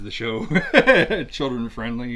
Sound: laughs

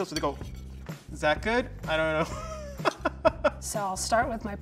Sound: laughs

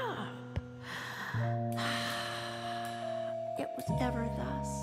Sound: sighs

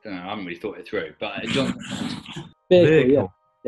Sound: sniggering

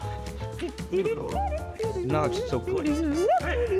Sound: Red hums

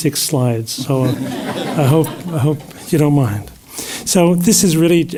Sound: laugh

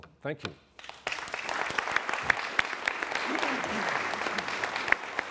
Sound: applause

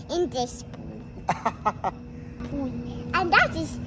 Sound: haha

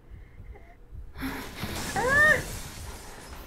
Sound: faint heartbeats; ghostly noises; whimpers; shallow breathing

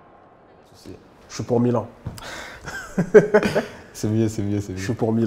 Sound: laughs

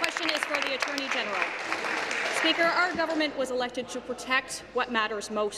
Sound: applause

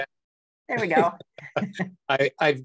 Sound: laughs

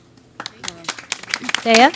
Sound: audience claps

